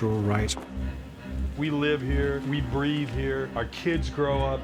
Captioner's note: voiceover